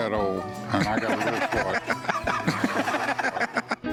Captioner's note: laughter